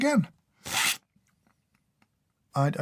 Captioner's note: slurp